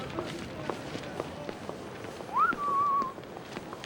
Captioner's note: whistles